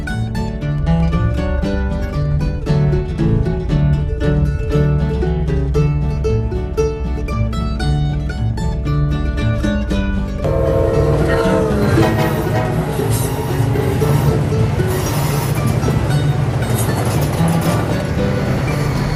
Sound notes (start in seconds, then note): 10.4 train hooting